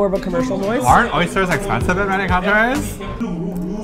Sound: hipster voice

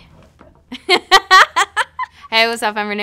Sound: laughing

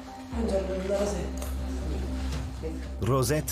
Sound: speaking in Italian

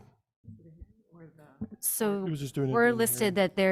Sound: board member speaking faintly

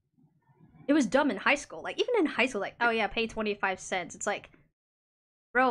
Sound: stuttering

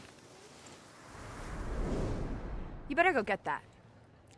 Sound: wind whooshing

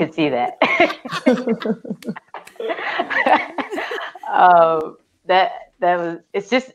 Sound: laughter

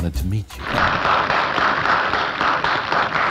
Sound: applause

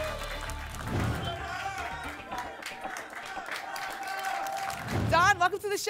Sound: applause and cheering cont

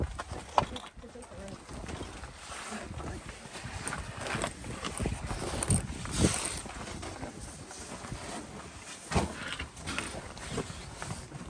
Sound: sound of rock crunching beneath feet and gear brushing against rock

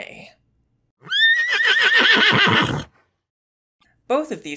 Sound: horse neighing

